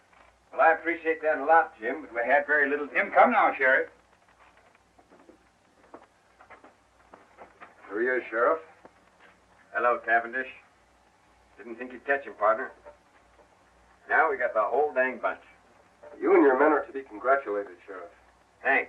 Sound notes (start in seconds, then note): none